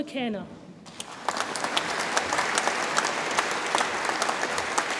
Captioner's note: audience applauds